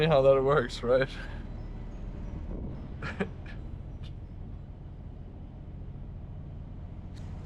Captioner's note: laughing